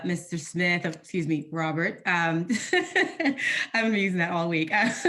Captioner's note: laughing